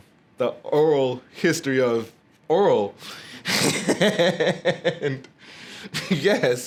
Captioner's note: laughing